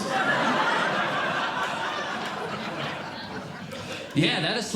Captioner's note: audience Laughing